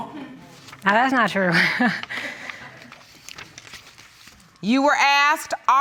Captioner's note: laughter; nervous chuckle